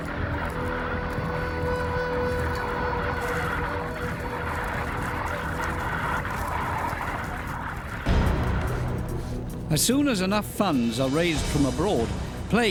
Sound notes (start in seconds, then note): 3.2 locusts buzzing; 8.2 dramatic music